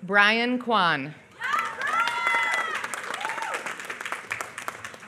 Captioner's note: applause